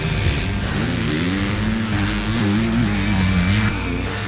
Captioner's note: engine revving